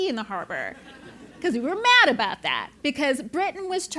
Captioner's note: laugh